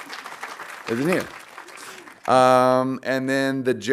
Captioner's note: audience applauding